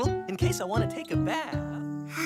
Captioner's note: sighs